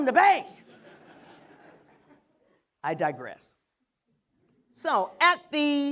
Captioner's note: laughter